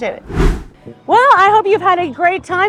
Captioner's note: air whooshing